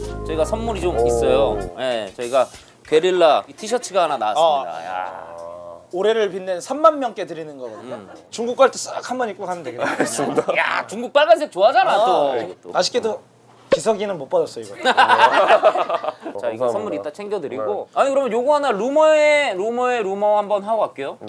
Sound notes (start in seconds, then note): 14.8 laughing